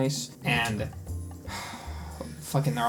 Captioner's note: sigh